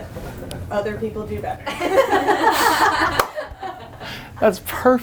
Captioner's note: laughs